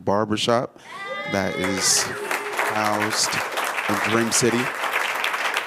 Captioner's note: applause